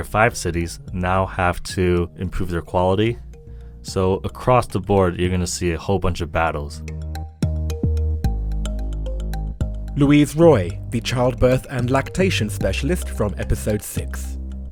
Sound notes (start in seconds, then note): 7.4 voiceover